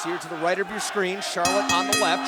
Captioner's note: bell ringing